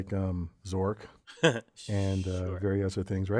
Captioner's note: laugh